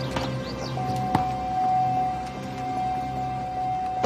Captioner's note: car beeping